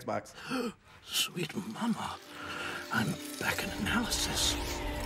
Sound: gasp

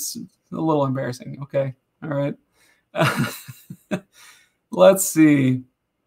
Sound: laughs

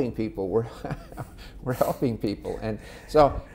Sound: laughing

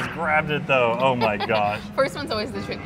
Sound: laughs

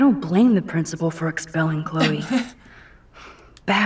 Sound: chuckles

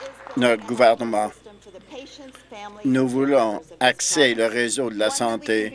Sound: applause

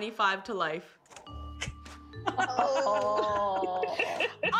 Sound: laughter

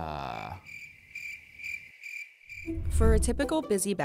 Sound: crickets

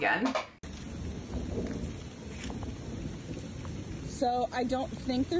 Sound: rain pouring and thunder rolling

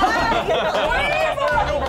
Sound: laughing

